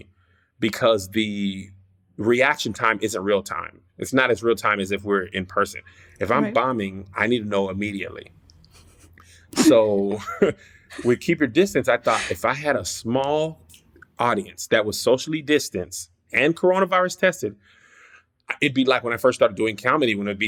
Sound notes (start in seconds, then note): 9.5 laughs; 9.6 laughter